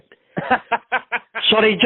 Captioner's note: laughing